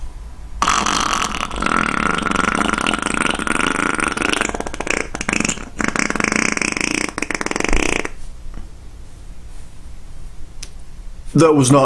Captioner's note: farting sound